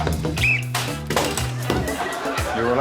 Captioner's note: blows whistle; whistle blows